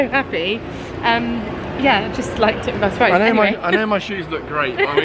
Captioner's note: laughing; laughs